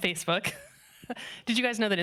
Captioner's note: laughing